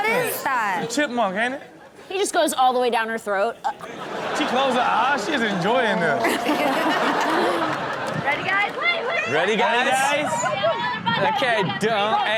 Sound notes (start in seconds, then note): 3.6 audience laughs; 3.6 gags; 6.2 everyone laughs